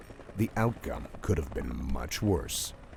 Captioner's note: voiceover